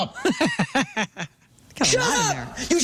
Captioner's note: laughing